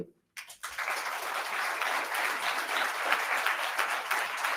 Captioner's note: attendees applauding